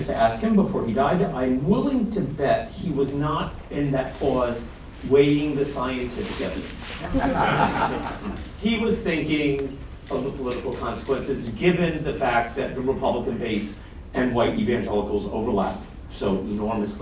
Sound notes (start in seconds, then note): 7.0 laughter